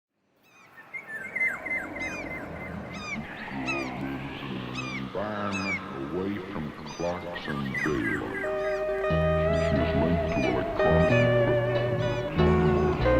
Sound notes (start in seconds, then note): 0.3 birds caw; 8.7 soft country music